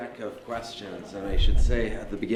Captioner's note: laughter